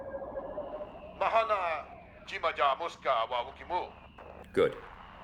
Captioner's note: Speaking Huttese